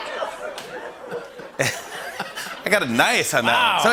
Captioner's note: audience groans; laughs